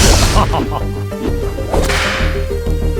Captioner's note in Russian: смешок; шлепок